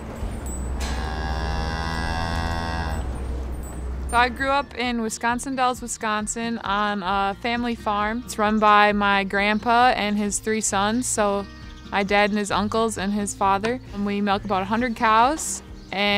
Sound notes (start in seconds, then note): 0.6 cows mooing